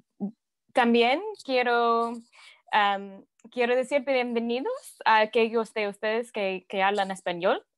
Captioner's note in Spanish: en español